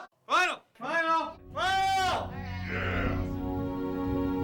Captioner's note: cheering